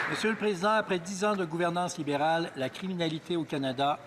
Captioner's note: applause